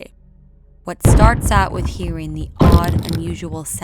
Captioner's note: ominous banging